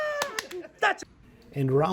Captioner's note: man claps